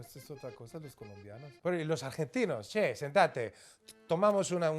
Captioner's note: speaking Spanish